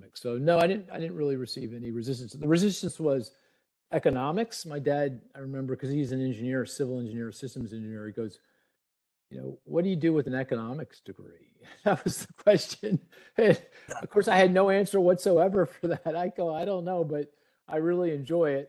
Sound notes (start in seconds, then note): 11.7 laughing